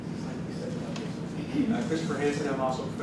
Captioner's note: murmurs